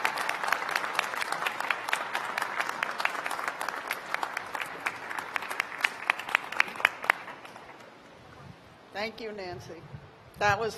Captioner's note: applause; cheers and applause